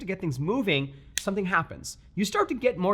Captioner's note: finger snaps